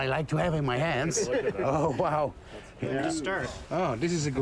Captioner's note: laughter